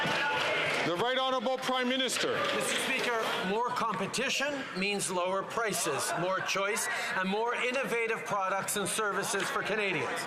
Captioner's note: some Applause